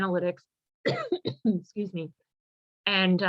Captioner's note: coughs